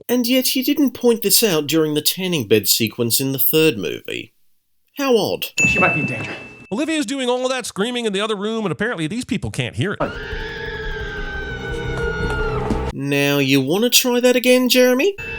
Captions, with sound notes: And yet you didn’t point this out during the tanning bed sequence in the 3rd movie... How odd... *Olivia’s muffled screaming* Now you want to try that again Jeremy?